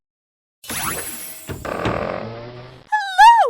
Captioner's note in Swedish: dörr öppnas